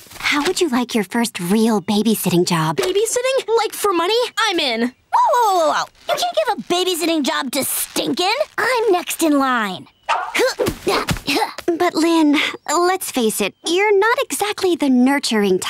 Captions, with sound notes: Hey, Lincoln, how would you like your first real babysitting job? Babysitting? Like for money? -I'm in. -Whoa whoa whoa! Don't you give a babysitting job to Stink-oln! I'm next in line. [grunting] Yeah, but Lynn, let's face it, [grunting] Yeah, but Lynn, let's face it, you're not exactly the nurturing type.